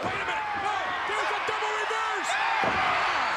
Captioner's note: spectators cheering